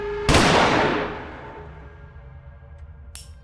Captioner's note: gun firing